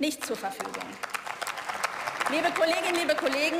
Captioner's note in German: Beifall